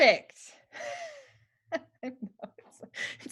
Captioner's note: laughter